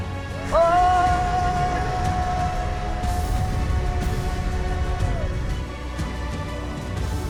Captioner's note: scream